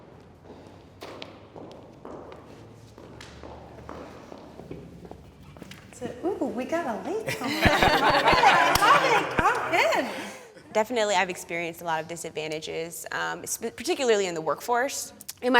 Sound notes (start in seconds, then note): 7.3 panelists laughing